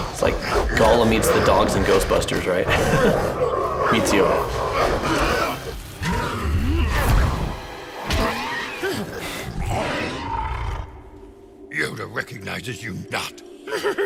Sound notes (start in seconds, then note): 2.4 laughs; 5.2 Dark Yoda growling; 5.2 dramatic music